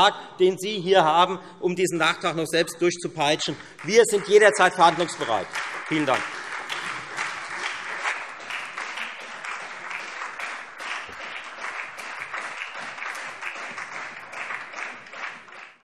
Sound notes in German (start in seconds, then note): 6.1 Beifall Freie Demokraten und SPD